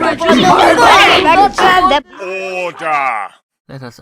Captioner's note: shouting